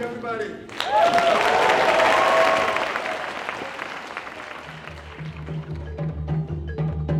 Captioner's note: applause; closing music